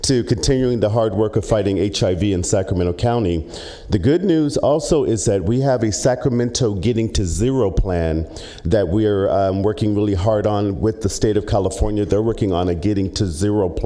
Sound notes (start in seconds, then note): none